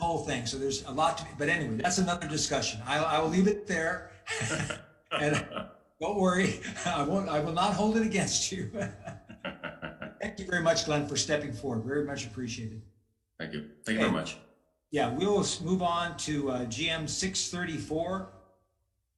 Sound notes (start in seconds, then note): 5.0 laughs; 5.0 chair laughs; 8.9 laughs